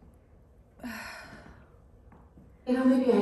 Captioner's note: tired exhale